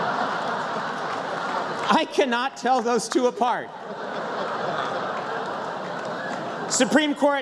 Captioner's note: laughter